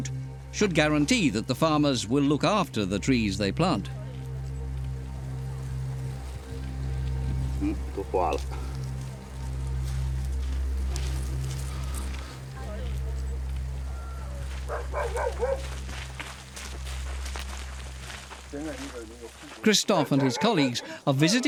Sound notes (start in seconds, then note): 7.4 speaking Chinese; 14.6 dog barking; 15.9 gravel crunching